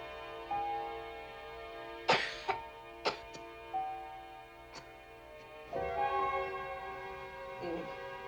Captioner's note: coughs